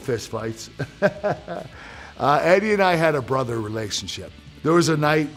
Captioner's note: laugh